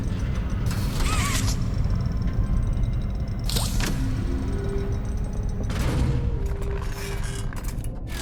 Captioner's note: door opens; door closes